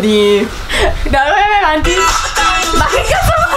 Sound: giggles

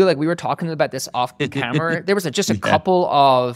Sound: chuckling

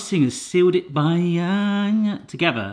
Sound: humming

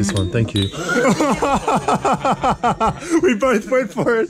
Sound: laughing

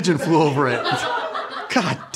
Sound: laughing

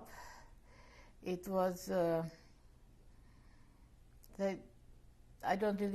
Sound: pauses for 3 seconds

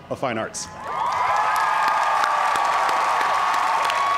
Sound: cheers and applause

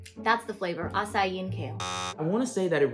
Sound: loud buzzing

